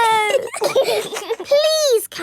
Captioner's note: giggling